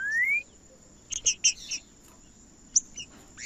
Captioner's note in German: trinca ferro cantando